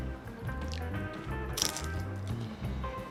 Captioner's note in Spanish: Crunch